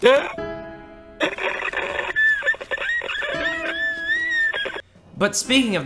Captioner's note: ungodly sobbing